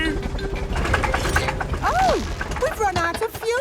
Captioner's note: helicopter engine sputtering